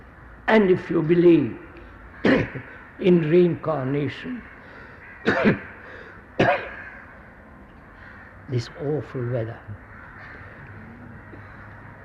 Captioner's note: coughs